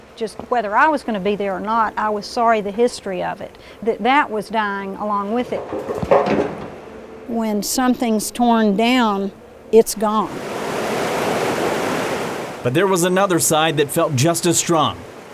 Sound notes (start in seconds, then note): 5.6 wood hitting dumpster; 10.4 water flowing